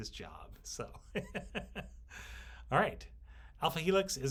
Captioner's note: instructor chuckles